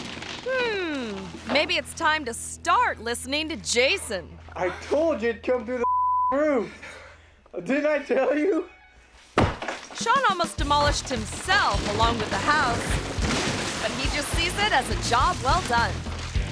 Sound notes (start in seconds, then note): 5.8 beep